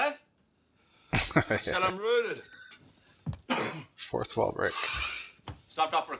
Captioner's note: chuckling